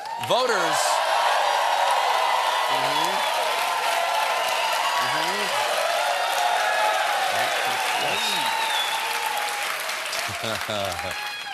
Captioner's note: cheers and applause